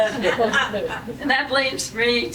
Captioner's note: laughing